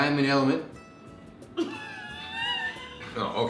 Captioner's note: laughter